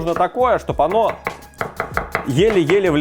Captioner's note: chop-chop